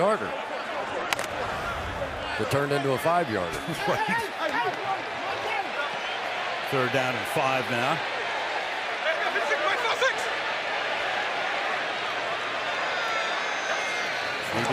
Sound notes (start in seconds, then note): 3.9 laughs